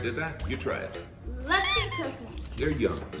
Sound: squeak

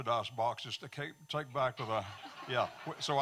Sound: audience laughing

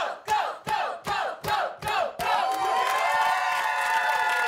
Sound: cheering

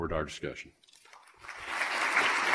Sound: applause

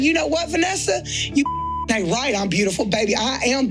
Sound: beep tone

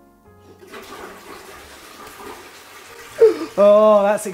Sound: toilet flushing; gasps

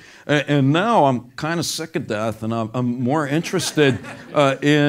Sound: laugh

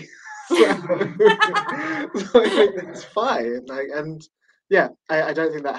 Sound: laughter

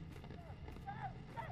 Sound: cawing

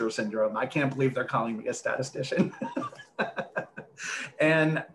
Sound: laughs

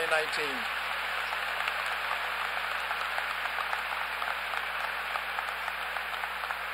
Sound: applause

